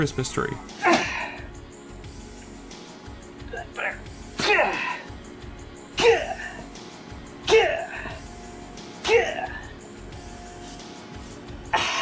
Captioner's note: grunting